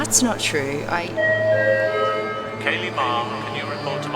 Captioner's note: tone ringing